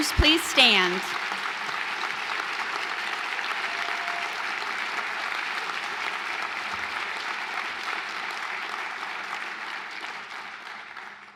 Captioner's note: applause